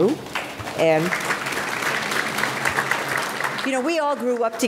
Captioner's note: audience applauding